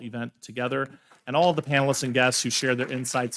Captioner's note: attendees applauding